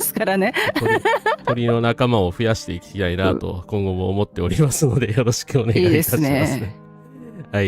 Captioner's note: laughter